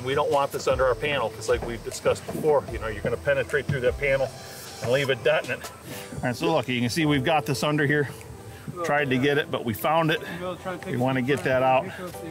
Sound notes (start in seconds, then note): 5.7 soft music; 10.5 people chattering